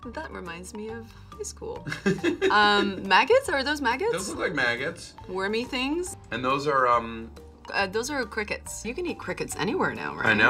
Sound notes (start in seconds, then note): 1.8 Nick laughs